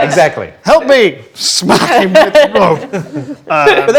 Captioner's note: group laughs